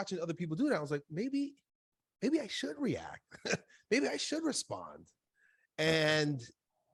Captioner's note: laughs